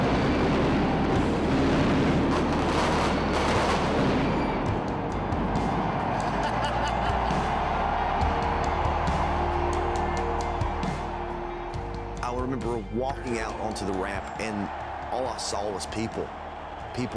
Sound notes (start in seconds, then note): 0.0 fireworks boom; 0.2 light music; 6.2 AJ laughs; 6.5 crowd cheers; 10.9 light music